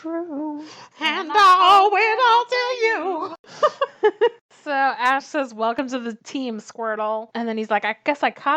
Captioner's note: laughs